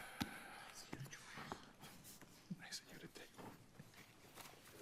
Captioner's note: justices whispering